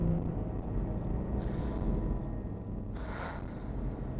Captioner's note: heavy breathing